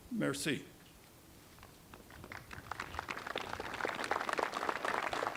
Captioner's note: applause